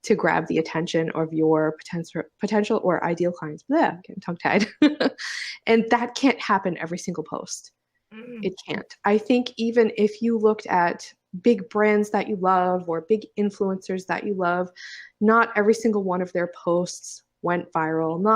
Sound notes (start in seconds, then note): 5.4 laughs